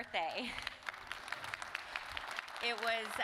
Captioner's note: audience applauding